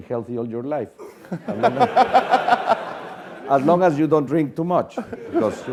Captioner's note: laugh